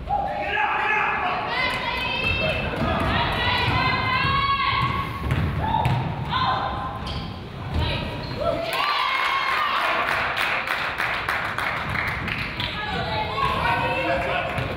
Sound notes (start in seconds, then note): 8.6 crowd applauds and cheers